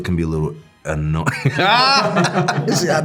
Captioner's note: all laughing